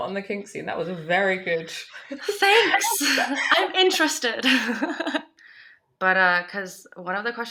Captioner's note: laughs